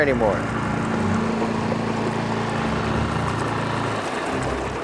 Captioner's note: boat motor burbling